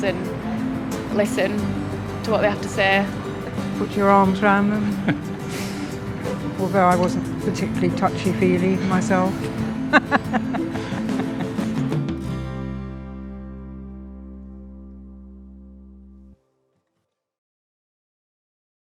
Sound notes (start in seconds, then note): 13.4 chuckles loudly